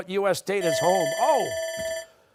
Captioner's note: bell ringing